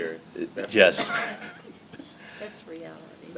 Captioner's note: laughs